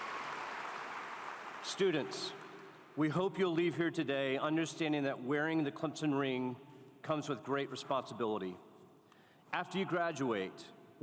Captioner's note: applause